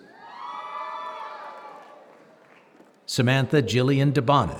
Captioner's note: applause